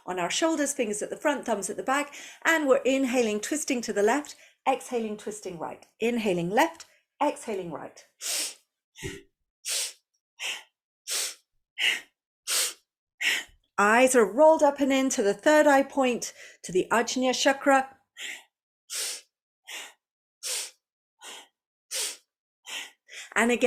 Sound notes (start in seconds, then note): 12.3 breathes